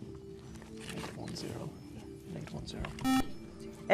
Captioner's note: whispering